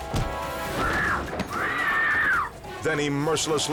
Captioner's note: woman screams